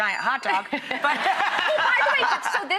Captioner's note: laughter